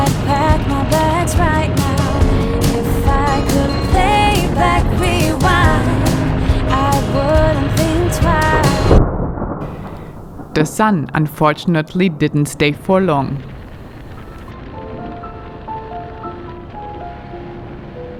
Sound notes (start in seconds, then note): 9.2 thunder roaring; 13.4 tranquil piano music